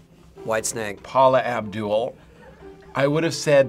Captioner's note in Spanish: Finebros ríe